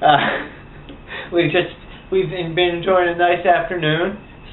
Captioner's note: laughs